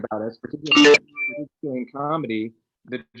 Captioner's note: device chimes